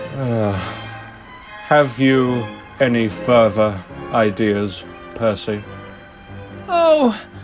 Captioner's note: sigh